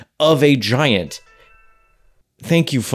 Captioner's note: phone chimes